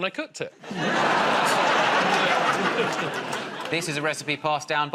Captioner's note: laughter